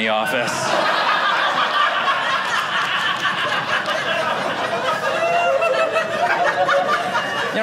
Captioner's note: audience laughing